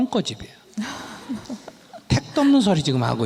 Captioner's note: questioner Laughter